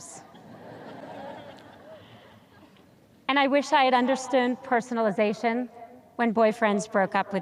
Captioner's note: audience chuckles